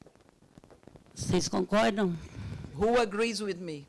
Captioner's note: speaking Portuguese